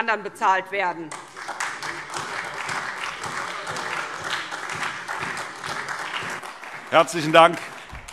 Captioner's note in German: Beifall SPD